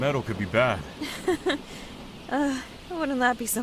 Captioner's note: nervous laugh